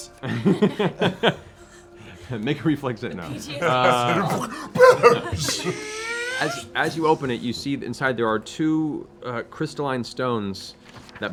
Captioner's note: laughs